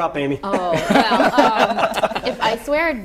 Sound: laughter

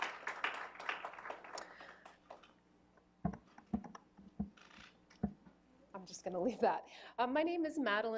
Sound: applause

